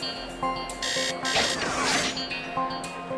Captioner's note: phone rings